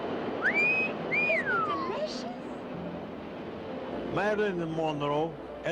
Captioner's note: man whistles